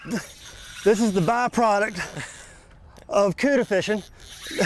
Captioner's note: straining